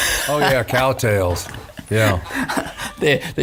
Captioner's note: laughing